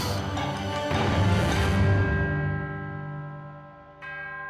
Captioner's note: bell tolling